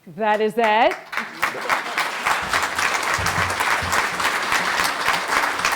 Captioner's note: audience applauding